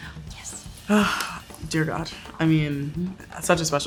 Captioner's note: sighs